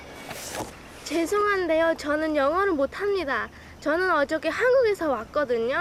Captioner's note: woman speaking Korean